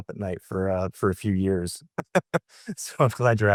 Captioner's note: laughing